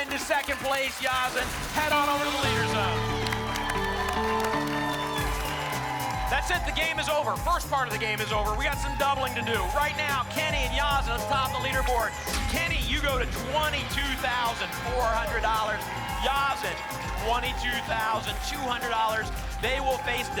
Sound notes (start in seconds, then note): 3.4 applause and cheering